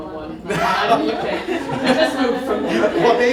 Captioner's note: laughter